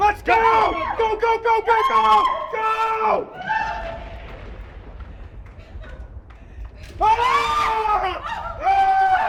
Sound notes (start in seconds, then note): 3.7 Madame Slydes screams; 6.9 group screaming